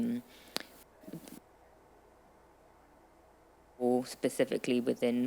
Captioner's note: audio cutting out